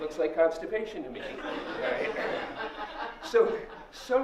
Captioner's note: laughter